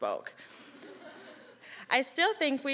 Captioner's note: audience laughing